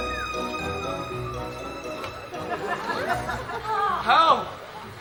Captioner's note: Robin whistles